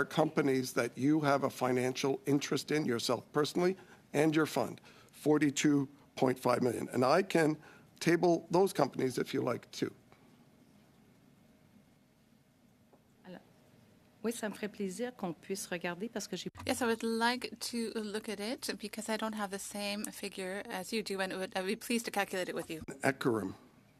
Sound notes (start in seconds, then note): 19.9 speaking French